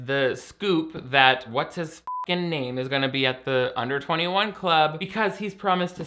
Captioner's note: beep